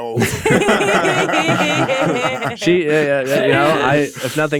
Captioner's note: everyone laughing